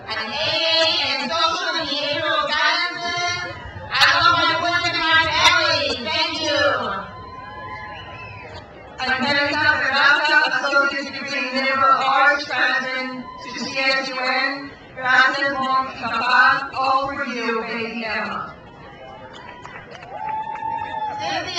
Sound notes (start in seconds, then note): 6.9 crowd cheers; 14.7 speaks in foreign language; 18.3 crowd cheers